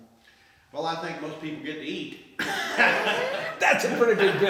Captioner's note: laughs